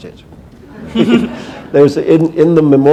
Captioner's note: chuckle